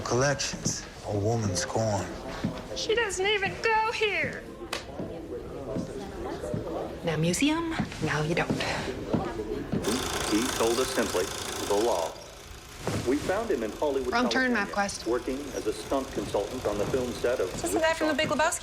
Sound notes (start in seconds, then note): 9.4 man speaking in film